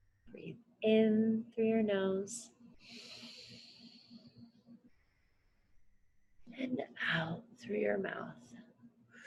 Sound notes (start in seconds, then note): 2.9 inhales